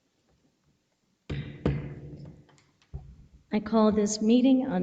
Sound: gavel banging

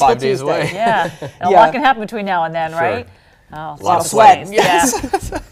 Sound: laughter

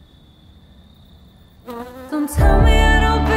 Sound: fly buzzing

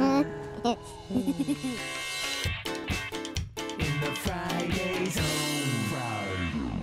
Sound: laughter

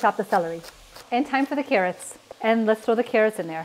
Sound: pot sizzling

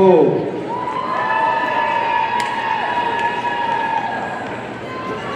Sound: audience cheering

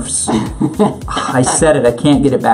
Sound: laughs

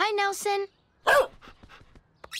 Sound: barks

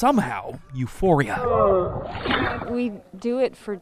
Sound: nats moving ice

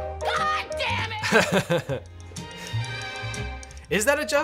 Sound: chuckles

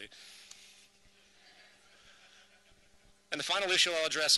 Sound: chuckles from audience

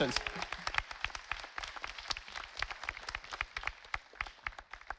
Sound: audience applauding

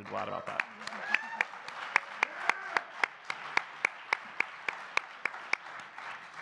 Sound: audience cheering and clapping

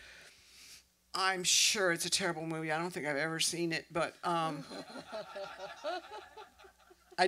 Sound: laughter

